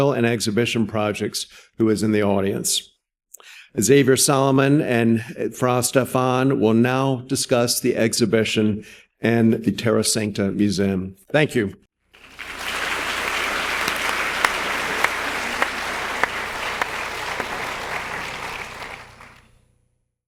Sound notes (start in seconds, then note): 12.1 audience applauding